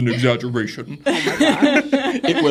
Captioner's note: everybody laughs